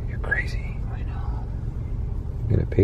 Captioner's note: whispers; whispers back